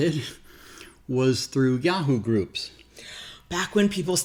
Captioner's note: laughs